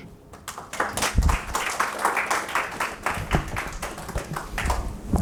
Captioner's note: audience applauding